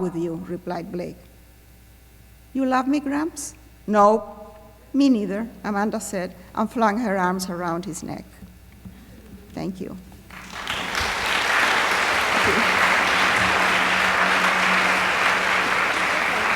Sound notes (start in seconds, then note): 10.2 applause